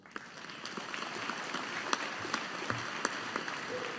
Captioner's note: audience applauding